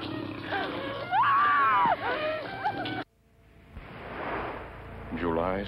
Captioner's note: screaming